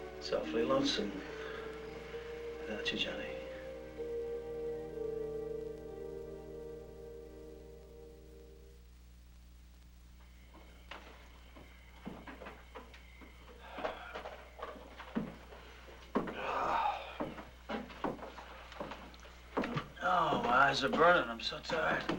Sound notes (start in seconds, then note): 10.0 crickets chirping; 16.2 Gil sighs